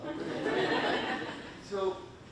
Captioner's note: audience laughing